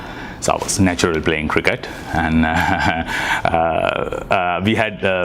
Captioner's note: laughs